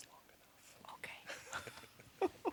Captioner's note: whispering; both quietly chuckling